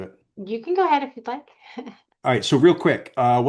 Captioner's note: chuckles